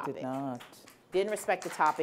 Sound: applause

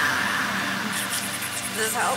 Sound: slurping noises

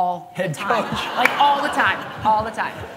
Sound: laughter

